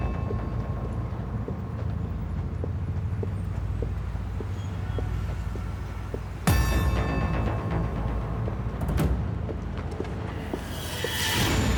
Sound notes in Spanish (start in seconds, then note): 5.2 bullicio en el tráfico